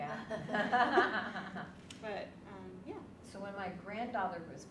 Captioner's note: women laughing